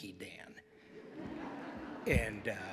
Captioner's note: audience laughs